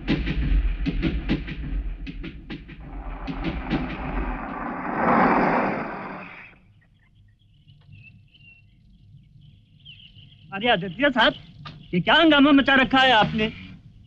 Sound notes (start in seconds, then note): 0.0 train rumbling; 5.0 brakes squeal